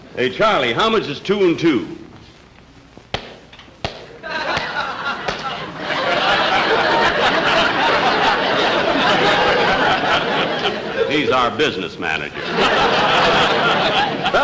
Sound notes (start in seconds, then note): 3.1 shoe Tapping Ground 4 Times; 5.7 audience Laughing; 12.2 audience Laughing